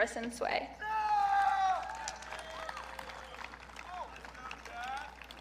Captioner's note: audience cheering